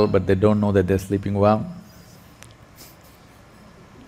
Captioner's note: laughs